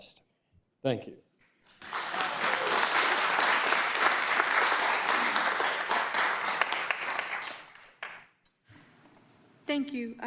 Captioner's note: applause